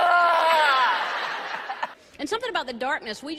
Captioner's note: canned laughter